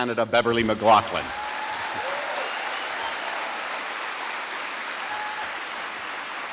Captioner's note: audience applauding and cheering